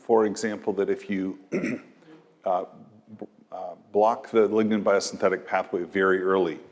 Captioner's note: cough